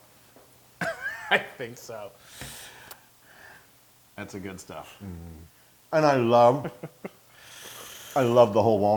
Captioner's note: laugh